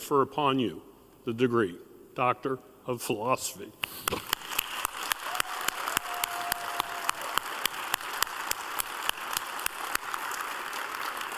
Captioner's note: applause